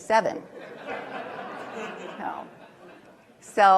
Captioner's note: laughter